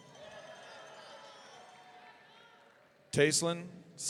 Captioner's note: audience cheering